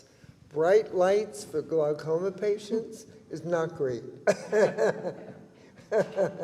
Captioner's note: chuckles